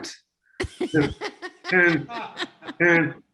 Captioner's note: woman and man laughter